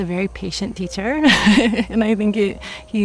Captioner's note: chuckling